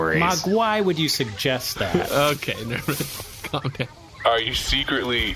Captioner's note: laughing